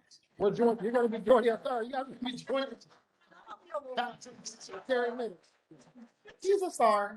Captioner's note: chatter